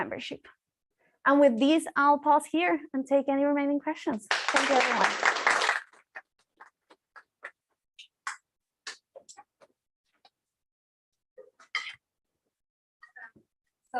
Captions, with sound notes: membership. And with this, I'll pause here and take any remaining questions. Thank you, everyone. [APPLAUSE]